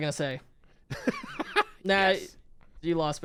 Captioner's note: laughing